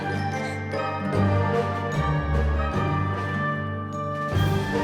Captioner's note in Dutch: klokken luiden